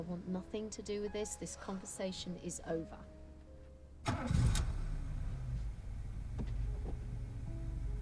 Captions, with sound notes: I want nothing to do with this, this conversation is over. (car engine revs)